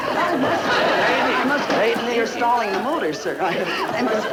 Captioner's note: audience laughter